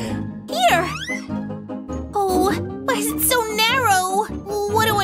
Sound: groans

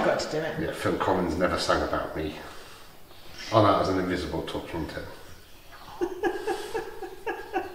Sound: laughter

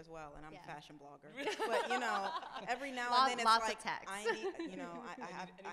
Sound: laughs

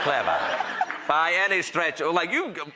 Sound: audience laughing

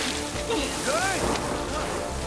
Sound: gasping

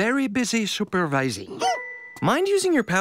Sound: barks

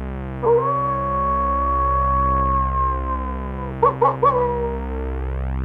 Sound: wolf howl

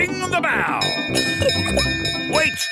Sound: bell chimes

